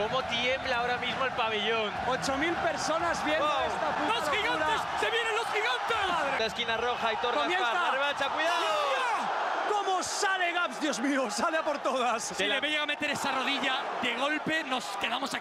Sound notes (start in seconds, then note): 9.9 cheering